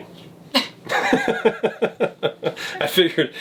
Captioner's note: laughs